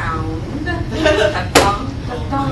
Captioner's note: laughter